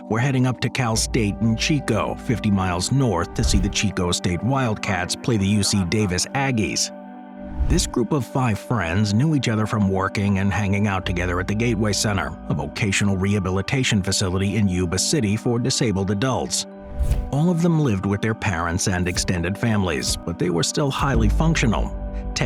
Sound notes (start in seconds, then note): 6.9 gentle music; 16.9 transition whooshes; 17.0 gentle music continues